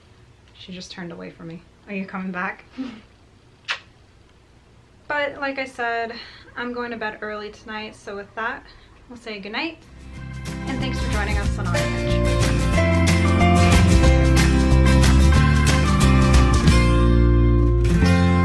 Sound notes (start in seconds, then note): 3.6 giggles and kissing; 13.0 lively energetic music